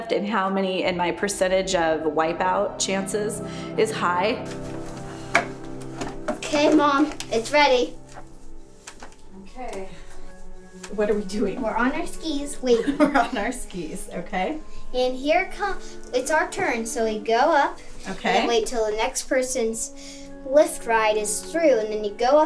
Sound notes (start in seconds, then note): 5.2 chairs hit; 12.7 laughs